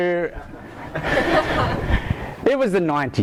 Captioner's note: laughter